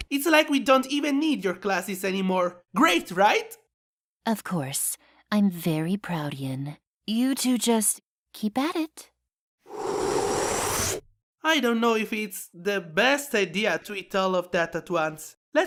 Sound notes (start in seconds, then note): 9.7 sprinkles inhales